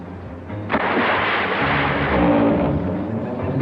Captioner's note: timber creaking; timber splashes; boards creaking; boards splashing